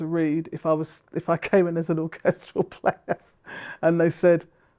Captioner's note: chuckles